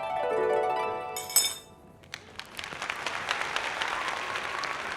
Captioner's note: audience clapping sound